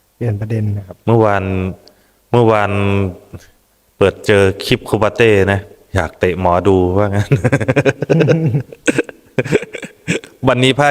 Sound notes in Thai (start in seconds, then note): 7.2 เสียงหัวเราะ